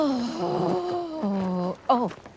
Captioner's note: groaning